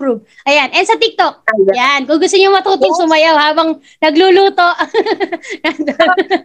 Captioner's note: laughs